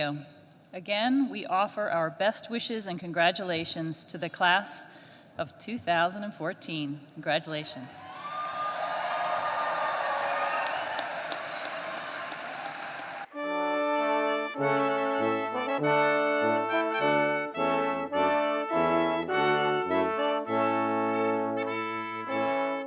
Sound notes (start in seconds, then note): 8.0 applause